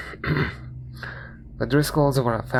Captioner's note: throat Clearing